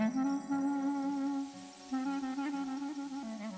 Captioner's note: hissing